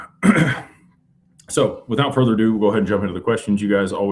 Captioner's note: clears throat